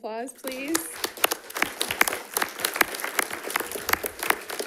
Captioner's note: all applauding